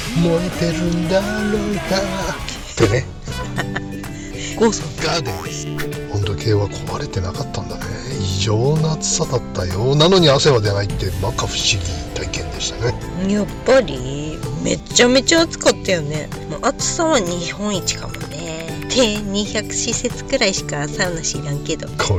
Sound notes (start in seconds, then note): 5.0 laughs